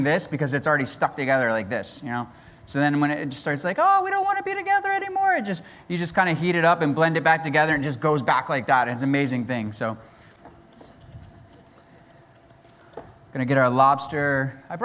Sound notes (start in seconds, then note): none